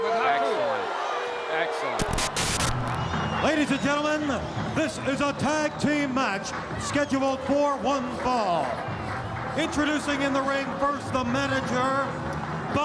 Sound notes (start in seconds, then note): 2.0 static crackling